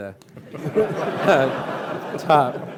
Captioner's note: laughing